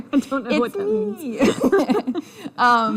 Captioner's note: laughter